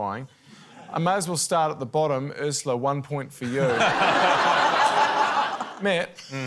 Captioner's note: laughter